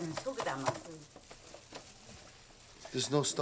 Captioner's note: speaking Korean